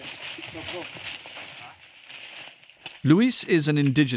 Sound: people chattering

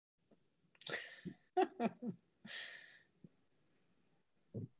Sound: laughing

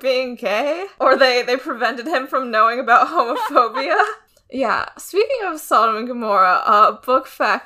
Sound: laughs

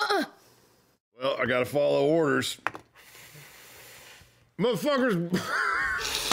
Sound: cast laughs

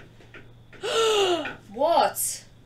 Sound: gasps

